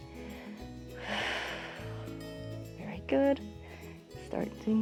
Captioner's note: exhales